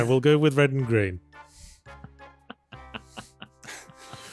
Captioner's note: laughs